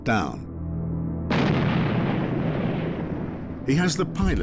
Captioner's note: explosion